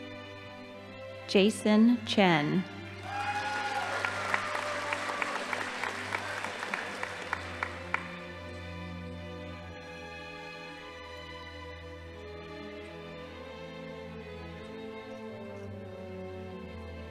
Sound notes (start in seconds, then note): 3.0 crowd cheering; 3.0 audience applauding